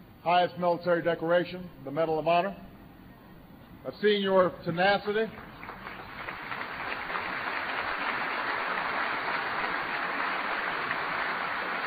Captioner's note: applause